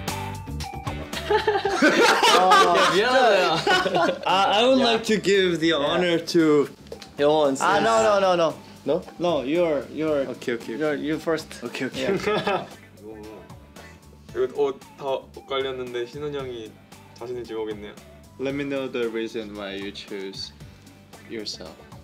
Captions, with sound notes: (laughs) - Oh, Yeo One! - I would like to give the honor to- Hui, insist. - Ah, no, no, no, no. - No? - No you are, you are. - Okay okay. - No you first. - Okay, okay, okay. - Let me know the reason why you choose yourself.